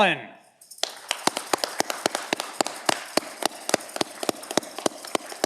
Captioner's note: audience clapping